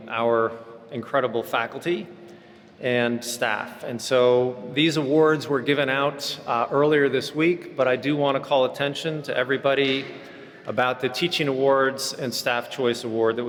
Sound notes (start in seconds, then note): none